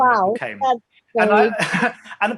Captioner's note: laughs